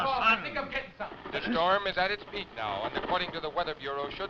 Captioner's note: radio Announcer